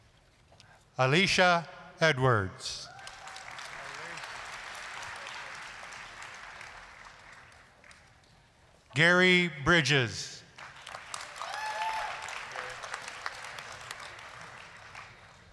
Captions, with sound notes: ALICIA EDWARDS... (applause) GARY BRIDGES... (applause, cheering)